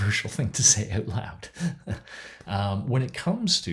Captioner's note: chuckles